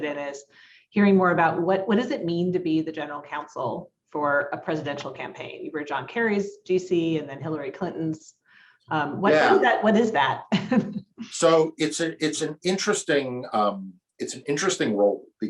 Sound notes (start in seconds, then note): 10.6 chuckles